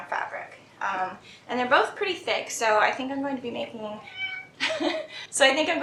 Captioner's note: meow